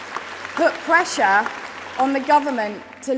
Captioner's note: applause